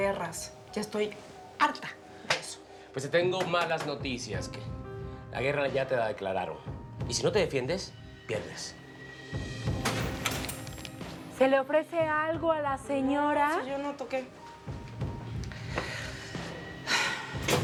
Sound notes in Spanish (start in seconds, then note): 9.8 Sonido de puerta al abrir